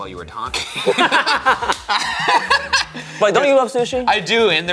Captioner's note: laughing